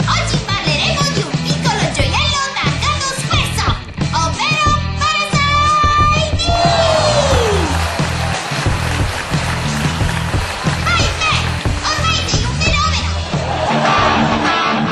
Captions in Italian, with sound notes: Oggi parleremo di un piccolo gioiello targato Squaresoft, ovvero…Parasite Eve!! (applausi) Vai Pad, ormai sei un fenomeno! (risate)